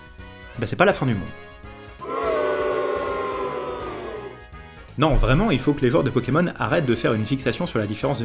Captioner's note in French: huées